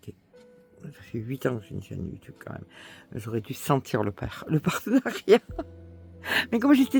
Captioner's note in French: rires